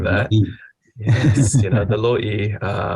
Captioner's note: laughter; laughs